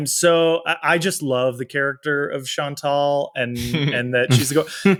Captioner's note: charles chuckles